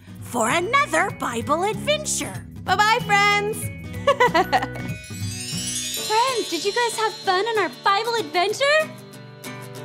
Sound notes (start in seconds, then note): 4.0 girl giggles; 5.6 magical music